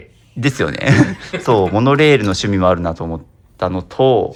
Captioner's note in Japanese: 笑い